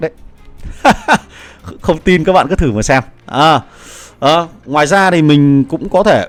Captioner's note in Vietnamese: tiếng cười